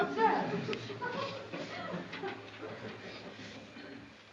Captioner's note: laughter